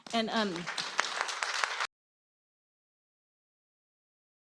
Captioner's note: applause